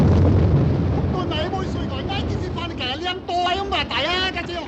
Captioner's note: man yelling in Chinese